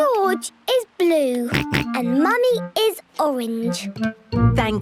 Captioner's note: George snorts; snorts